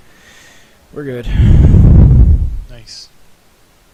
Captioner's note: long sigh